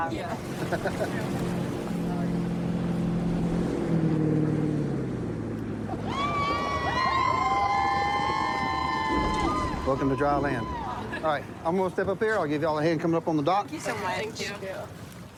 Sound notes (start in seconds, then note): 3.6 laughs; 6.0 cheers